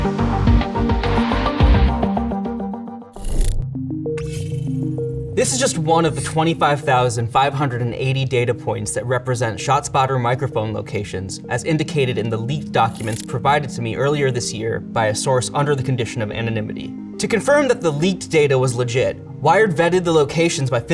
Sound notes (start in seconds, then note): 0.0 mellow music; 3.1 graphics whirring; 3.6 mellow music